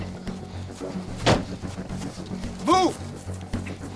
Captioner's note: door thumping; suspenseful music continues